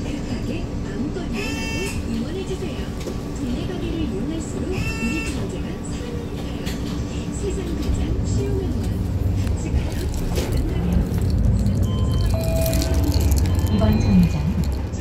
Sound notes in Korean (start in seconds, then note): 11.8 하차벨 소리